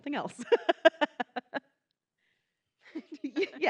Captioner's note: laughing